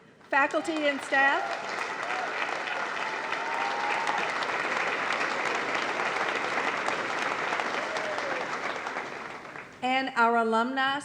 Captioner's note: applause